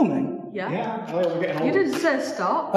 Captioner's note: voices